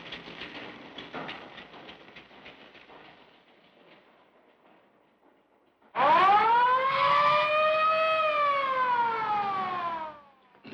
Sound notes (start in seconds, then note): 5.9 siren blaring